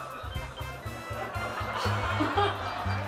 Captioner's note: gasp; laughs